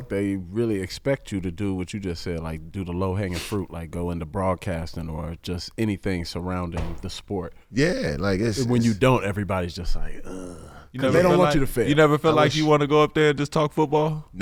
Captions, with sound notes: They really expect you to do what you just said, do the low hanging fruit, go into broadcasting, or just anything surrounding the sport. - Yeah. - And when you don't, everybody's just like (groans). 'Cause they don't want you to fail. - You never feel like you wanna go up there and just talk football?